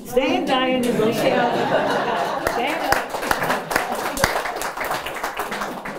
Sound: applause

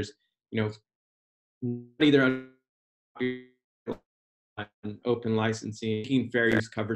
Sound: audio fades out

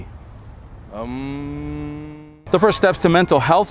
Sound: hums

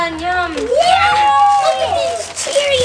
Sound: all shouting excitedly

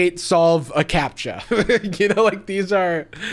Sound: laughs

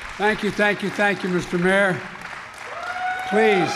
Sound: applause

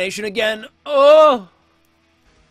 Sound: loud moan

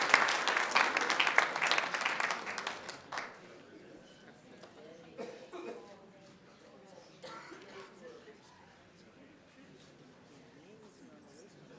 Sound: applause

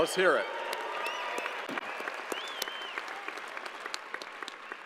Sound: crowd cheering

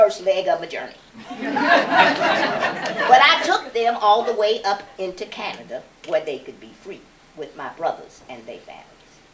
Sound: laughter

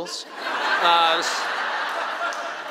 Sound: laughing

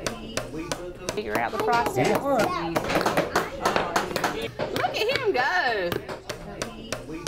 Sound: sound of hammers tapping; many tapping hammers

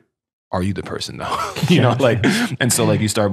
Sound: friars laughing

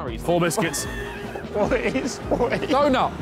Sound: all laughing

